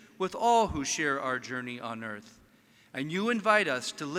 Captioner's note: none